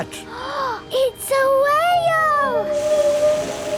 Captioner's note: gasps; whale calling